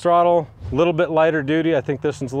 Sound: image whooshing

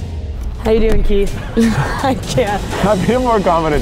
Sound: laughs

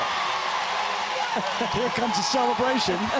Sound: crowd cheering

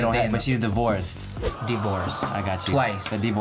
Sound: crowd aws

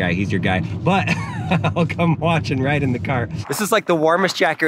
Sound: laughing

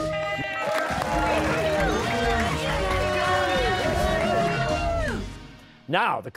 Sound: cheers and applause

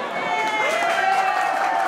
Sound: applause

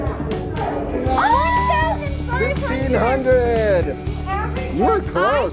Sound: exclaims

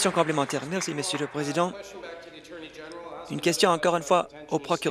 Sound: applause

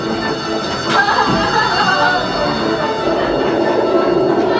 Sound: energetic music; bells chiming

